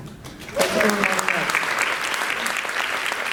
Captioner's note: applause